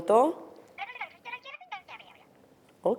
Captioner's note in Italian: vociare indistinto